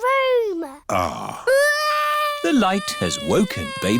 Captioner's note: crying